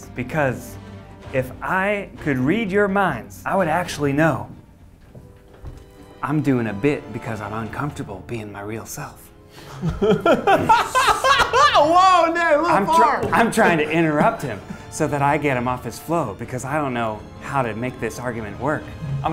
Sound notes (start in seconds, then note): 9.6 laughs